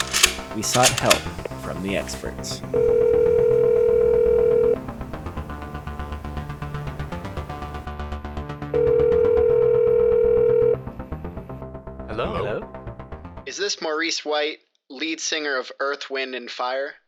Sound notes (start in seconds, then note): 2.6 phone ringing